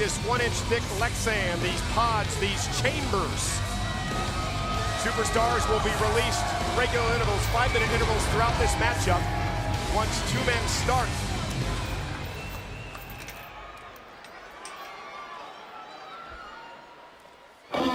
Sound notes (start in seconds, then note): 13.2 crowd murmuring